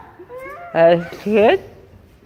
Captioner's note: still with tongues stuck out, distorting sound